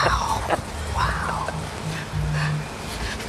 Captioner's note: laughs